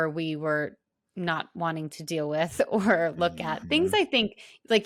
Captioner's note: laughs